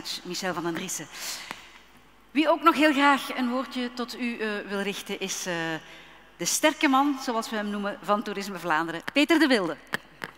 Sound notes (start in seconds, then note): 2.1 speaking in Dutch